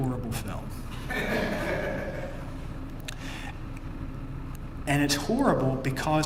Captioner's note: laugh